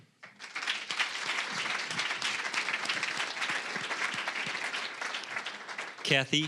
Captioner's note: applause